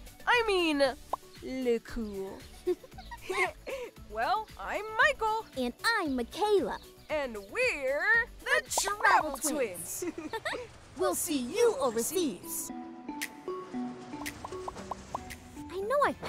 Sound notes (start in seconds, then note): 2.5 laughing; 9.2 laughing; 13.6 light upbeat music